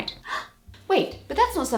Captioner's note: shocked gasp!